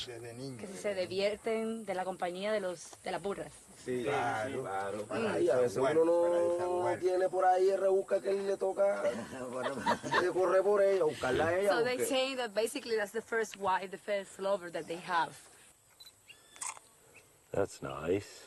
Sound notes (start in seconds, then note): 0.1 they speak spanish; 5.0 they continue in spanish; 9.5 she laughs; 16.6 shutter clicks